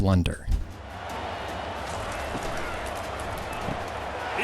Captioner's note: crowd noise